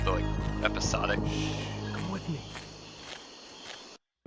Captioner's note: Basso, in a hushed tone